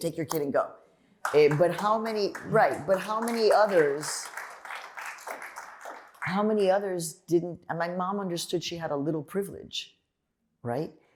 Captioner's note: applause